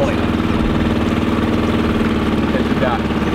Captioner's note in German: Motor rumpelt laut